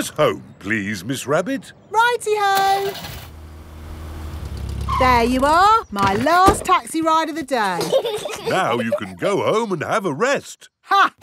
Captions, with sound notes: Take us home, please, Miss Rabbit. -Righty-ho! -(CAR ENGINE STARTS) -(BRAKES SQUEAL) -There you are, -my last taxi ride of the day! -(PEPPA AND GEORGE GIGGLING) Now you can go home and have a rest.